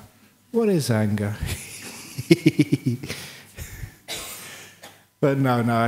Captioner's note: laughter